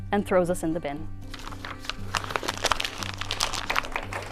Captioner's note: crumples paper; applause